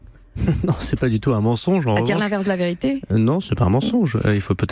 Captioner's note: chuckles